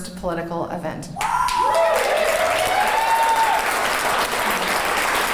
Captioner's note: cheering and clapping